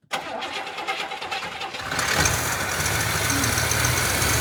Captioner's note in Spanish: Motor Rumbling